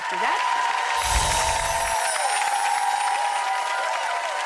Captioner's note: audience applauding